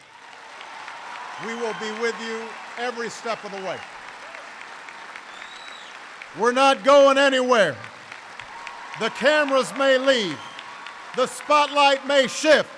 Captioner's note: applause; applause